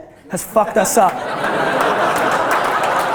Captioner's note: audience laughter and applause